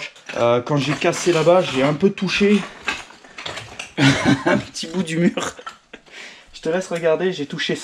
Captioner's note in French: rires